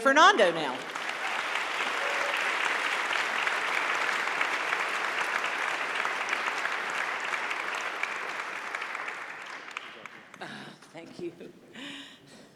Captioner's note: applause